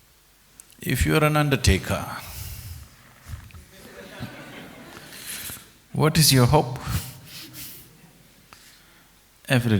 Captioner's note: laughter